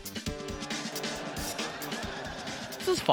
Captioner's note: quirky music; laughter